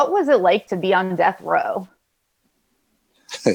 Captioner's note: laughs